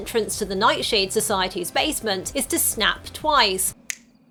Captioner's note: snaps twice